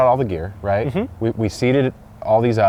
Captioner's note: hums